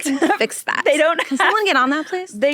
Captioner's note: laughs